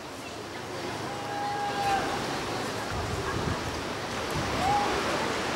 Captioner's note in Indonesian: suara teriakan